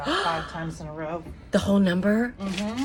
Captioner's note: gasps